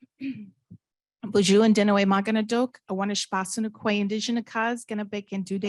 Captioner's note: speaking indigenous language